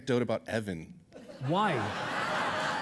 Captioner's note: audience laughing